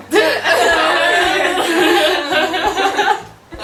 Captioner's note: laughing bitterly